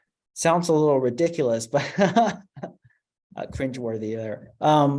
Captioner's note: laughter